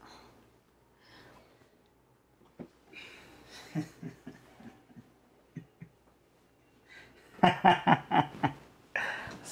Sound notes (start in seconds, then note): 4.4 Troy laughs